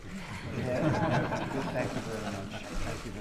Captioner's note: laughter